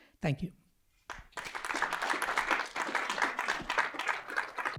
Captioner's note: applause